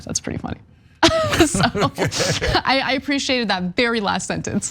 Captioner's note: laugh